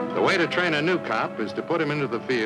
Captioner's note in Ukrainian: Голос за кадром